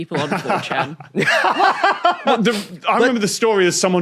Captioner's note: laughs; laughs uproariously